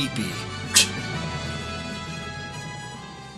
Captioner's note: scoffs